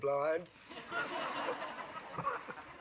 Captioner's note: laughter